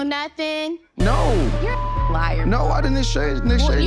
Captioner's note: beep